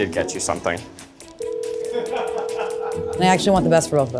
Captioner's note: phone ringing